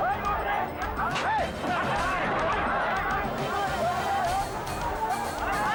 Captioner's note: gunshots firing; police shout in foreign language